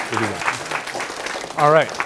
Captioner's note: applause